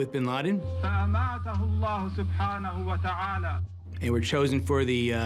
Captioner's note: speaking Arabic